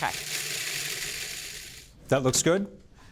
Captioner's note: processor whirring